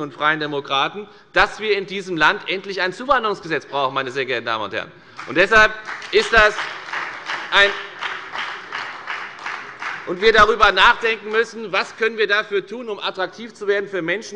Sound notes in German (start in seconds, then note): 5.8 Beifall bei : Ja!